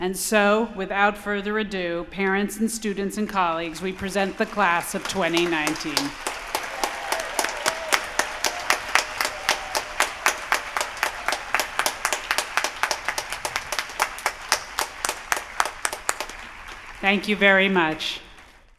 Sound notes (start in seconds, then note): 5.8 applause